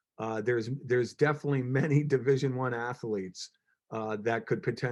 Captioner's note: chuckles